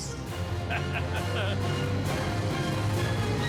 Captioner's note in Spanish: risas